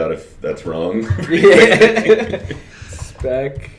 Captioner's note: laughter